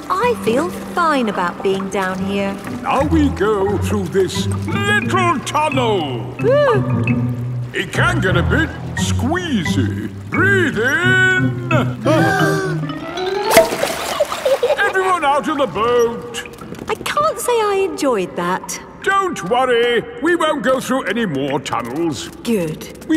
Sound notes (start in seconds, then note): 6.7 whimpers; 12.4 breathing in